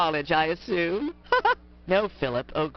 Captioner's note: pennywise laugh